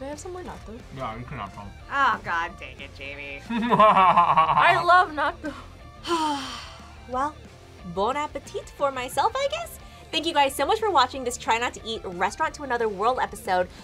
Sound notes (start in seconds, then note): 3.4 laughs; 6.0 sighs